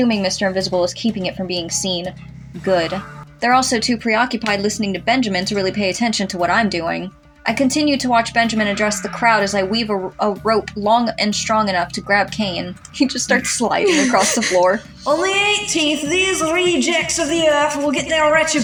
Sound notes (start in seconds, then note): 13.4 snicker